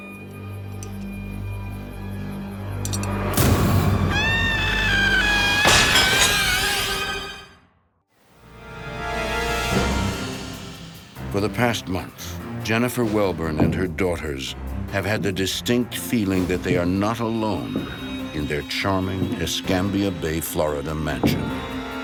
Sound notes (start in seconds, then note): 3.9 screams